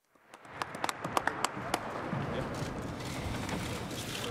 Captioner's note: applause